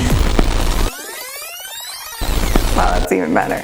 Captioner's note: rewinding noise